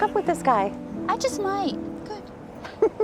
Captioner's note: chuckles